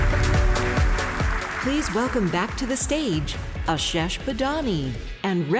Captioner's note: applause